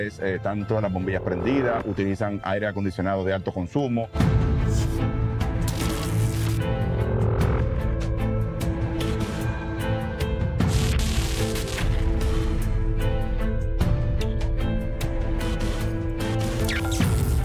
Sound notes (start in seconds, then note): 7.2 buzzing; 7.2 static